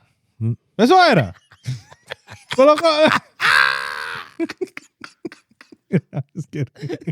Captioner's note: speaking In Foreign Language; laughing